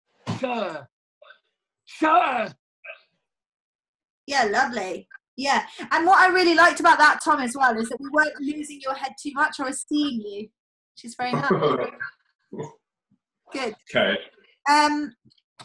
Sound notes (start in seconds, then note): 11.3 chuckles